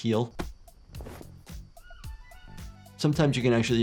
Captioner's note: animals calling; upbeat music